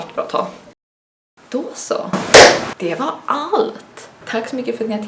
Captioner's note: clap